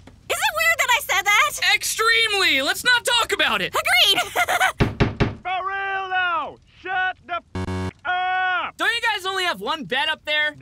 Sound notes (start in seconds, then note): 4.2 nervous laughter; 4.8 knock